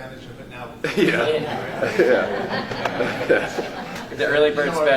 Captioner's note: laughter